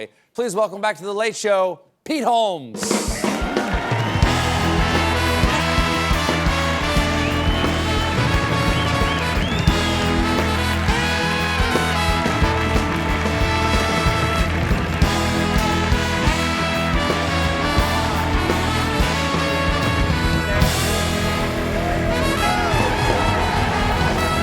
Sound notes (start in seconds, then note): 6.9 cheers and applause